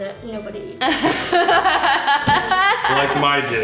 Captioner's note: laughter